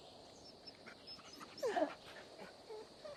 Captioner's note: Seaman whimpering